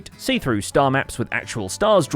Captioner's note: none